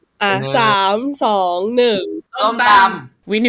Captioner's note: in Thai